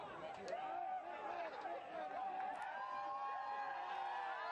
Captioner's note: crowd yelling and cheering